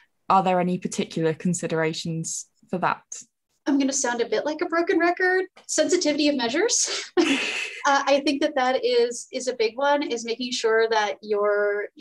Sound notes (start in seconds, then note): 7.3 laughing